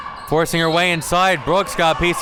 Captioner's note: whistle blows